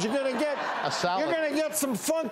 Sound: laughing

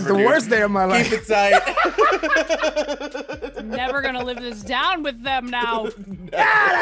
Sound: laugh

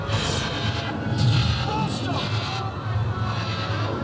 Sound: zapping

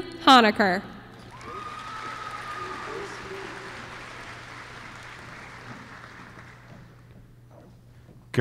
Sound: applause

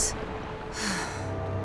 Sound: sighing

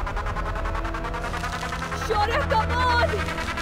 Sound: rope russles

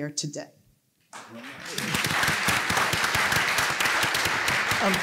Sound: applause

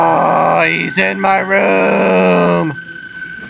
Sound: groans more

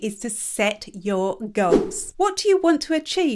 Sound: image whooshes

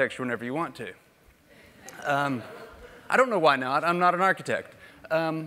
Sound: laugh

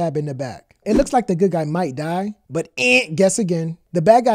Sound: buzzer sound

